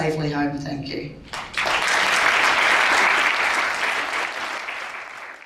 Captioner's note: crowd applauds